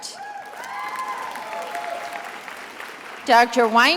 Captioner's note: attendees applauding